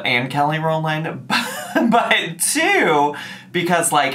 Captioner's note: chuckles